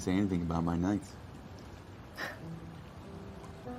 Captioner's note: small laugh